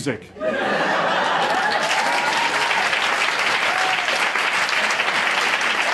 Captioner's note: audience cheers and applauds